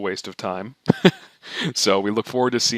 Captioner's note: laughing